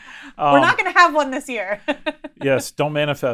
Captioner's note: laughs